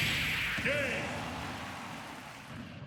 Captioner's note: boom